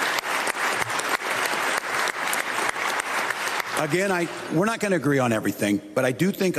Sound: continued applause

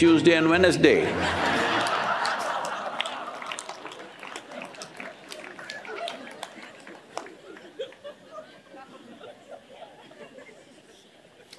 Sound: laughter/Applause

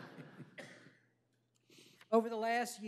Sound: laughter

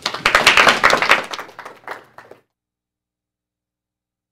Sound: applause

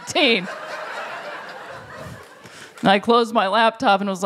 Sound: laughter

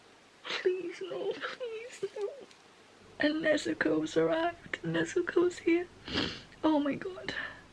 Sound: sniff

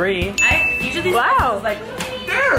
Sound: ringing sound

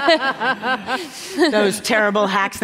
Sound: laughter

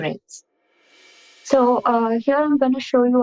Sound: swoosh transition

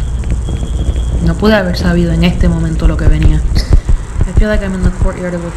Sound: spanish

